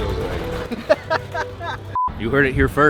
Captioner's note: laughing